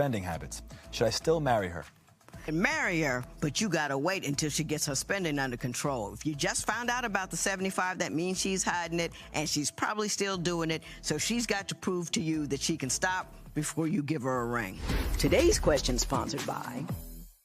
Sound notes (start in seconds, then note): none